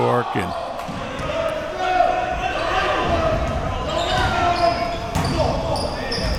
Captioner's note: audience chattering and yelling